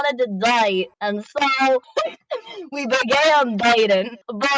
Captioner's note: chuckle